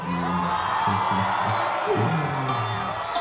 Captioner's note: laughs menacingly; crowd cheers